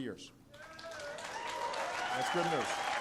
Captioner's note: applause